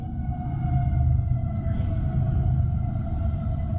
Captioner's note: large train noise outside